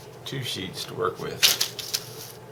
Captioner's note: rustling paper